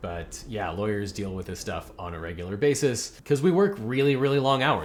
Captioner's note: none